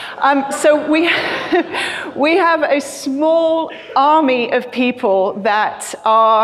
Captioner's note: chuckles